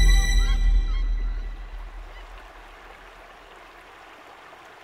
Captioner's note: Water running